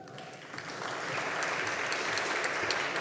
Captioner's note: audience applauding